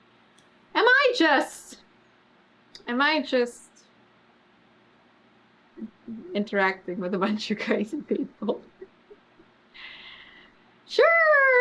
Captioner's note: laughs